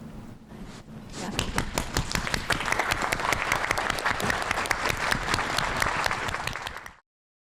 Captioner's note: applause